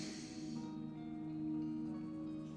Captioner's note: sighs